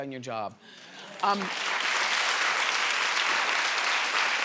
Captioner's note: crowd claps